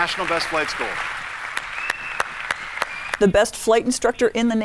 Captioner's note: audience cheering